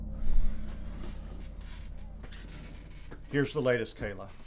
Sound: sighing

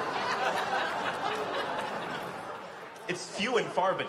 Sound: laughter

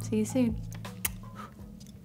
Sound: blowing kiss

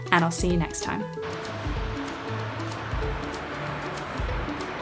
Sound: waves crashing

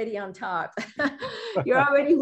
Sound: giggles

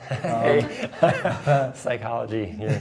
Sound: laughter

